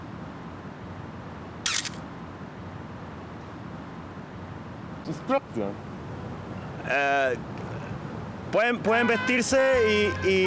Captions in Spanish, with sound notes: (Habla en Francés Inventado) Eeeh... Pueden vestirse, y...